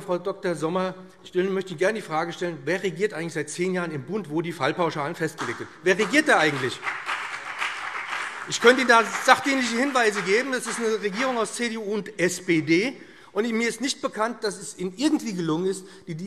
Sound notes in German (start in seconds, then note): 6.8 Beifall BÜNDNIS 90/DIE GRÜNEN und vereinzelt CDU